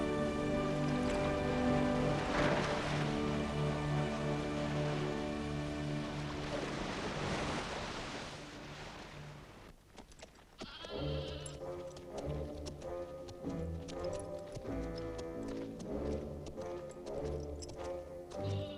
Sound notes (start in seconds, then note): 10.6 goats bleating; 10.7 austere music